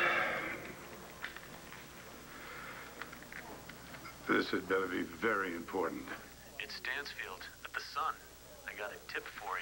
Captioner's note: phone rings